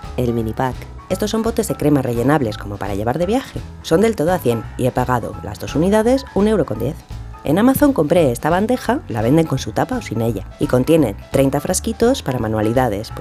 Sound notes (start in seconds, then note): none